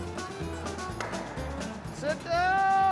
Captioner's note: stones clack